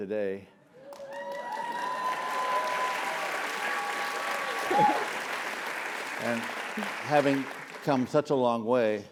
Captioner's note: applause